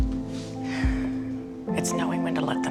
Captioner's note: Karen sighs